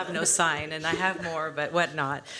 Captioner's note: laughter